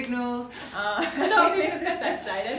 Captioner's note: they laugh